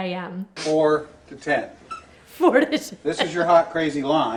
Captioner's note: laughs